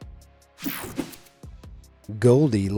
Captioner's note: screen whooshing